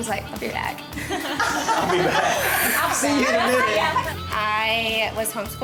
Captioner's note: laughter